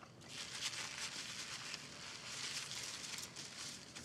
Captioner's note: paper rustling